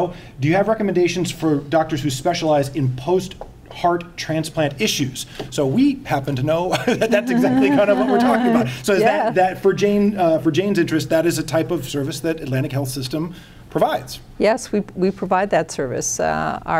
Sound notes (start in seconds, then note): 6.7 laughing